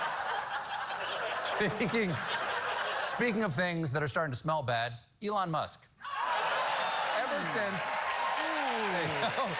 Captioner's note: laughter